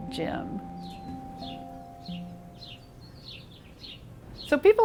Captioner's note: birds chirping